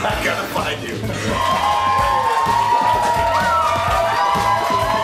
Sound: cheering

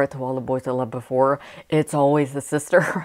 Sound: laughing

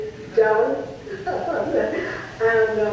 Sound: laughs

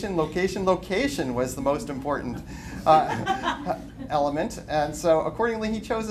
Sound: laughter

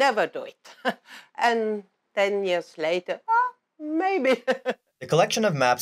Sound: laugh

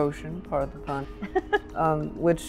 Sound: giggles

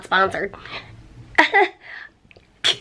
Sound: chuckling

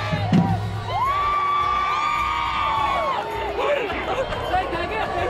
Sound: crowd cheering

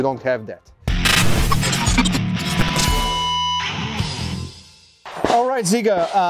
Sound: uptempo rock music; static buzzing

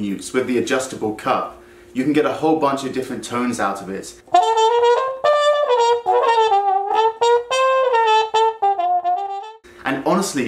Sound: trumpet effect

